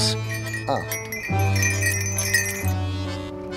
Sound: tinkling

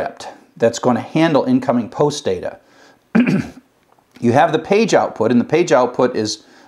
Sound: cough

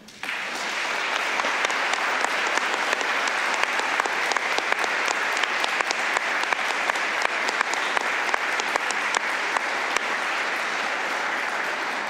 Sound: applause

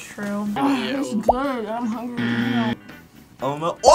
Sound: buzzer rings

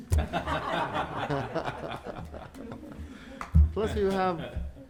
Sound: board members laughing

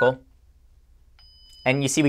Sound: soft beep

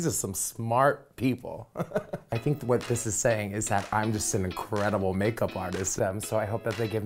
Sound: laugh

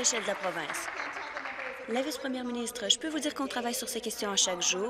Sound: applause

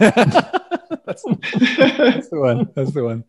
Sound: laughing

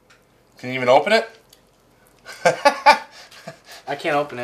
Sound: laughs

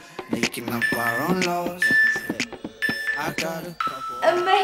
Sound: beeping sound

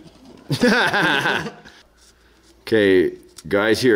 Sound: laughing

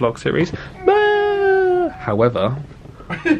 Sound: both mimic wailing

